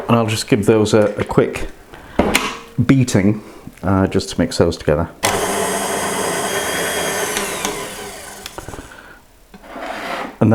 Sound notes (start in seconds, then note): 5.2 mixer noise